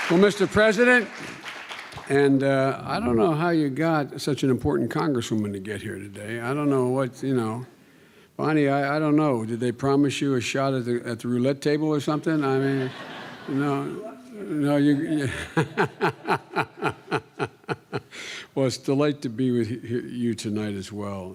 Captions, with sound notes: well Mr. President and I don't know how you got such an important Congresswoman to get here today I don't know what you know Bonnie I don't know did they promise you a shot at the roulette table or something I mean know [laughter] Well its a delight to be with you tonight as well